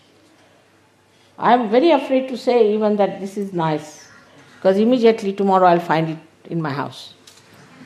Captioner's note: laughter